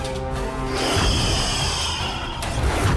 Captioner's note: hissing